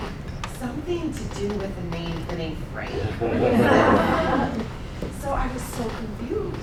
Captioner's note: laughing